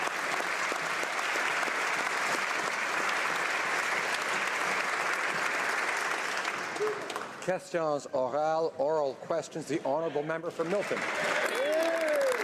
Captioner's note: applause